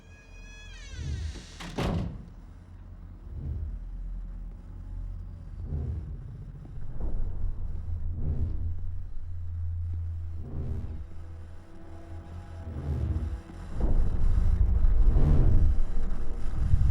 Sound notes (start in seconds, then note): 0.0 ominous music; 0.0 door creaks; 11.4 static hissing